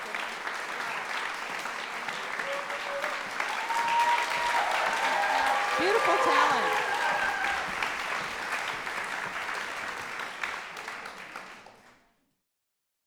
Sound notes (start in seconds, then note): 0.1 applause; 2.0 audience cheering